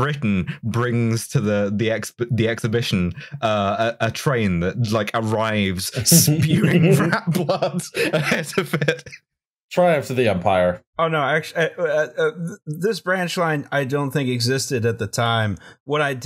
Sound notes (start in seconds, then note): 8.9 laughter